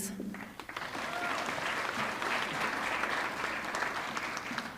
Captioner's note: audience clapping